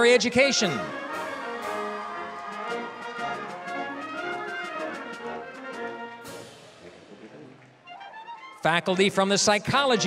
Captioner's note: applause, cheering